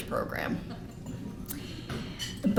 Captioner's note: laughter